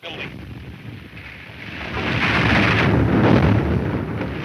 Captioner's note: explosion booms